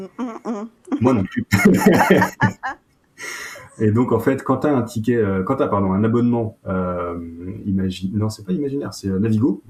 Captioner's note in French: rires